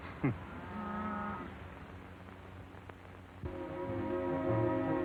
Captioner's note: cattle lowing; breezy music